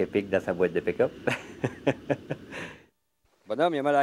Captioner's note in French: rire